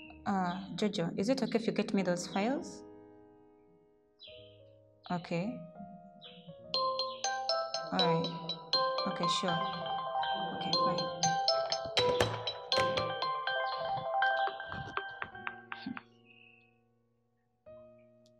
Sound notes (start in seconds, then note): 10.6 phone Call